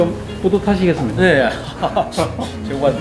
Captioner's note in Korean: 웃음